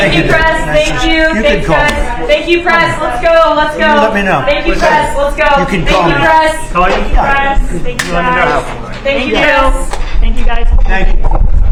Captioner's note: background chatter